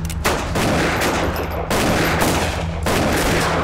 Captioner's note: gunfire